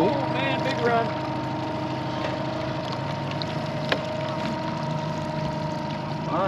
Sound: boat engine idling

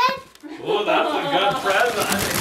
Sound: laughs

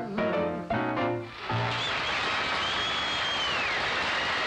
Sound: audience applaud

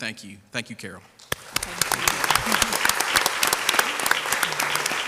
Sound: crowd applauds

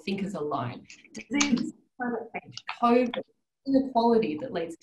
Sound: audio distorts

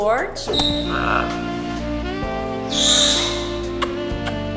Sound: kissing sounds

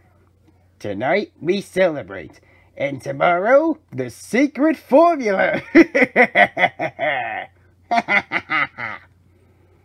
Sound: Karen 2 laughs with Plankton

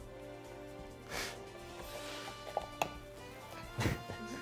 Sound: laughs

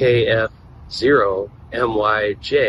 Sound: static

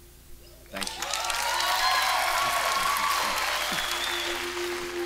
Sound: crowd cheering

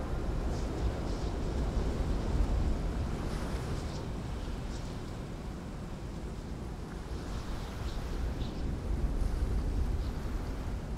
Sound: ambient Ocean Sounds

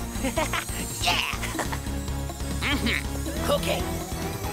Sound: Cozmo laughs

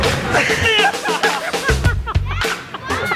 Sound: laughter

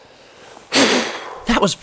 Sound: blows

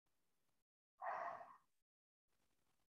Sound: exhales

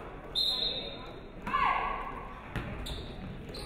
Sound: referee whistles

